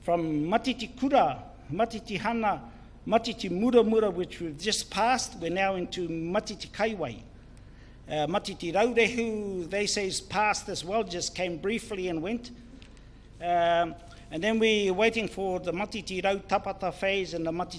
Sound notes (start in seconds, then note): 0.6 foreign Language; 6.6 foreign Language; 16.1 foreign Language